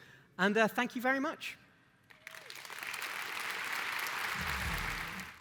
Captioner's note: applause